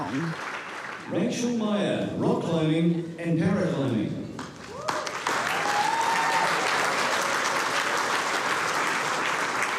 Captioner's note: cheering, applause